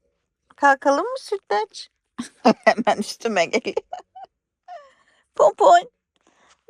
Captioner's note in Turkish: kahkaha